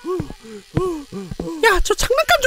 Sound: coming footsteps

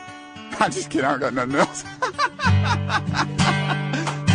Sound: laughter

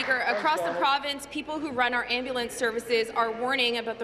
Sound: applause

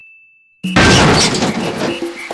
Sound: bang

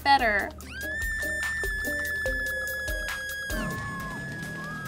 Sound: person screams

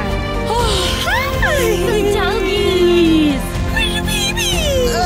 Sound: sigh

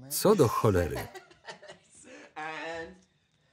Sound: laughter

